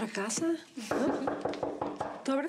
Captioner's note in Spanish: toques en la puerta